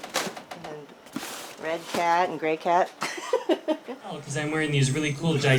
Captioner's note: laughs